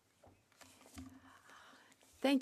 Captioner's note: speaking French